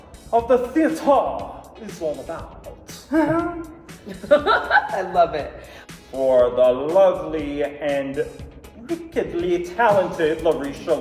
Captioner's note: laughter